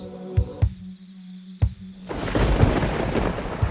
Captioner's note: crickets chirping; thunder cracking